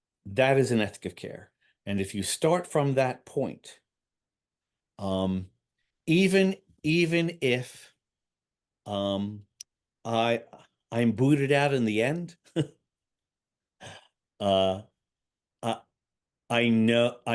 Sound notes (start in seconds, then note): 12.5 chucking